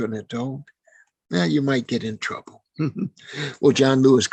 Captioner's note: chuckling